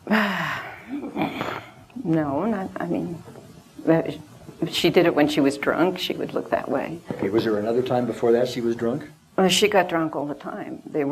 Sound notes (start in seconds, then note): 0.0 sighs